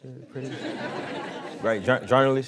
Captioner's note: crowd laughing